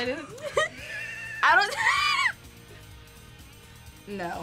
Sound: both laugh

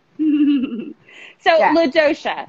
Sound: chuckling

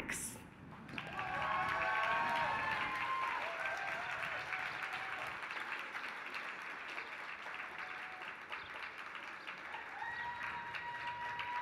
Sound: applause

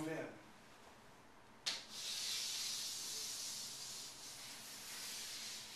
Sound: chalk on board

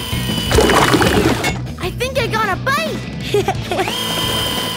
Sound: giggling

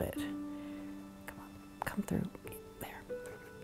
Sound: whispers

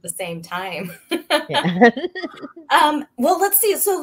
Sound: both laughing

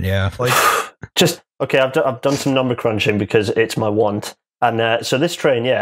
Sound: sucks in breath

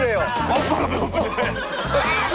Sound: beatboxing

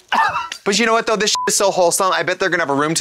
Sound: beep

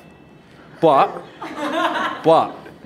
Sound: crowd laughs

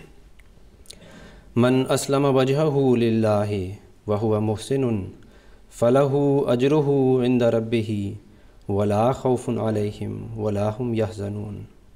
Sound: arabic recitation

